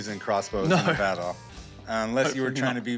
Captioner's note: chuckling